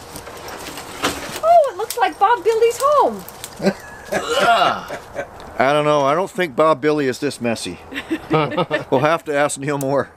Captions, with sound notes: -Oh, it looks like Bob Billy's home. [laughter] -I don't know, I don't think Bob Billy is this messy. We'll have to ask Kneel More.